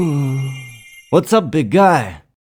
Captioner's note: sigh